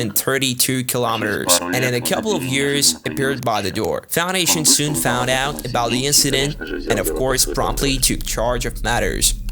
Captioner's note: static; static